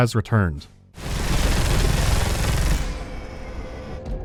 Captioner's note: brrrrrrt